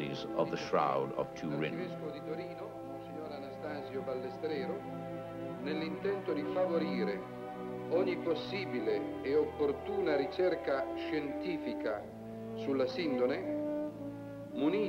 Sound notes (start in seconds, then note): 2.6 speaking in foreign language